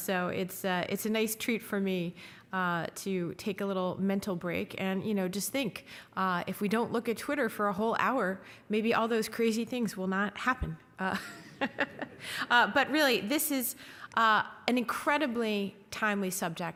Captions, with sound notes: so it's a nice treat for me to take a little mental break. And just think, if we don't look at Twitter for a whole hour, maybe all those crazy things will not happen. (laughing) But really, this is an incredibly timely subject.